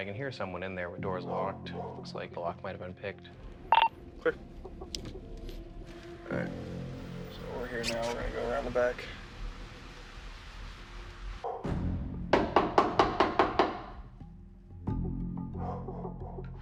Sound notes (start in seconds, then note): 3.7 radio beeping; 12.4 police knocking